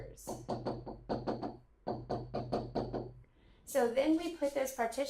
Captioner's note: marker scratching